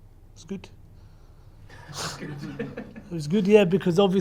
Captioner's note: laughs